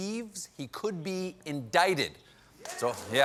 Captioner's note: applause